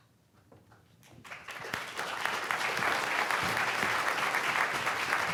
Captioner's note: audience applauding